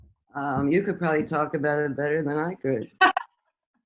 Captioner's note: chuckles